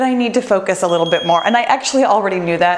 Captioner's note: bell dinging